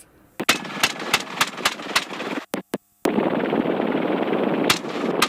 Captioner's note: gun shooting; helicopter blades whirring